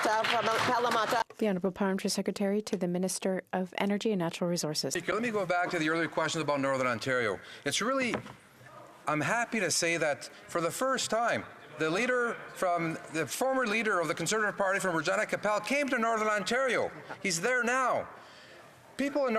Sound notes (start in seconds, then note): 6.1 speaking in French